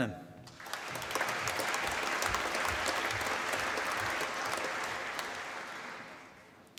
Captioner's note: applause